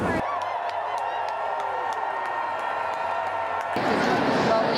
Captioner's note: crowd cheering